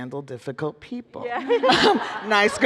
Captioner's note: laughter